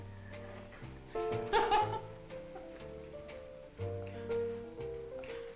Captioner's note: upbeat music; laughing